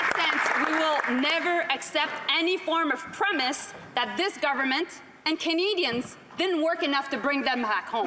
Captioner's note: some Applause